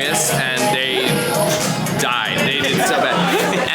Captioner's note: laughing